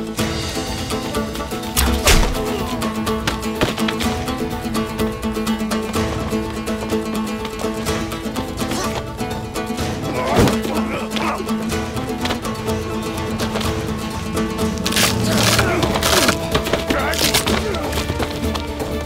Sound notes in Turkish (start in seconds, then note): 1.7 Ok saplanma sesi; 9.8 Dövüş sesleri; 14.3 Dövüş sesleri